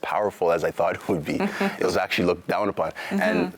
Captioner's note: chuckles